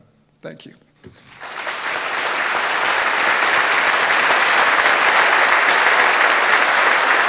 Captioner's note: applause